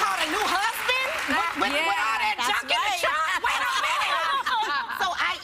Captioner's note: applause